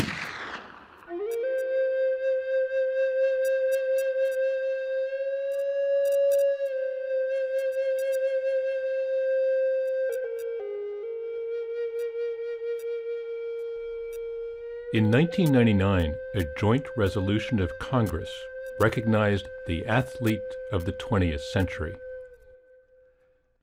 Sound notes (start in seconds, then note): 0.0 gunshot; 1.9 native American flute music